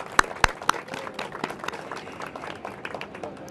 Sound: applause

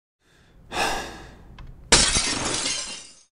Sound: sigh; glass breaking

